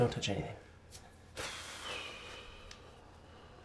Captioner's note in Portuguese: suspiro